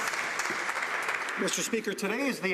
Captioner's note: some Applause